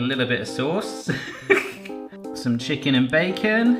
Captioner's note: laughs